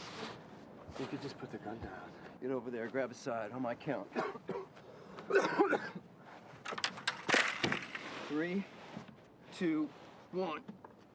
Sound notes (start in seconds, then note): 5.2 coughing